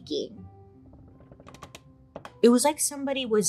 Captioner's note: wood creaks